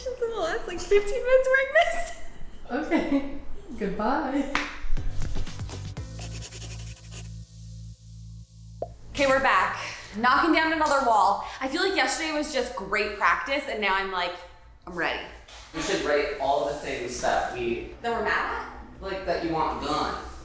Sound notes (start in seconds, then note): 5.3 upbeat music; 6.1 pen scraping